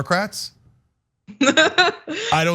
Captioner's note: laugh